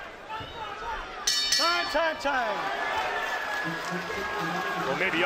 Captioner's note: bell dinging